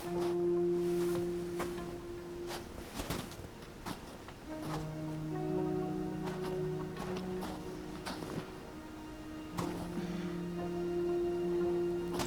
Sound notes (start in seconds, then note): 0.6 footsteps thudding; 0.6 soft music